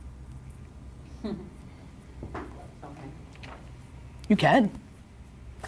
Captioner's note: chuckling